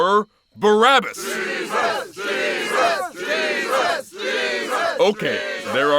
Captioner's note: crowd